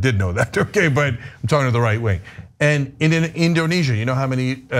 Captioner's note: laugh